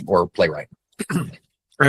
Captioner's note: coughs